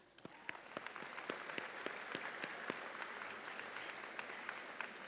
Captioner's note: audience applauds and cheers